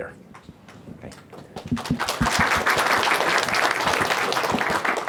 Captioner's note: applause